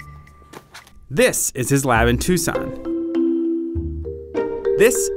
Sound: voiceover

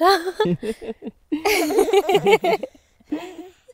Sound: laughing

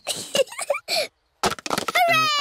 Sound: giggling

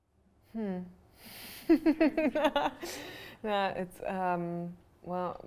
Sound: laughs

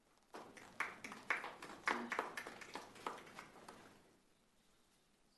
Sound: attendees applauding

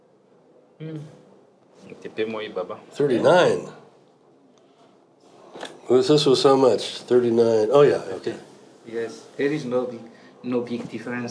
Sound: speaks Swahili

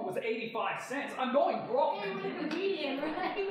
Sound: audience laughing

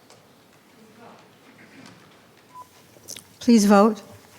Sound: speaking faintly

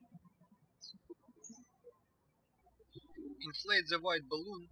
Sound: birds chirping

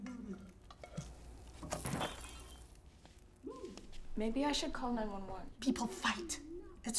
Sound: shattering sound

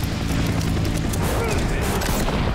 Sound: grunting

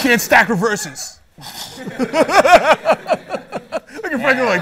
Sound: laughter

